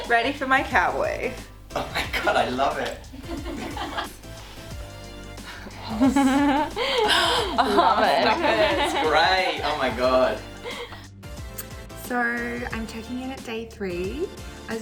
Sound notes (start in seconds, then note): 2.8 laughing; 4.3 upbeat music; 10.9 upbeat music